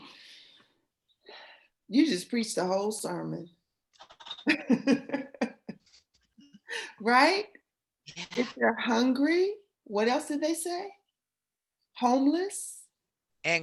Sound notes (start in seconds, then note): 4.4 laughter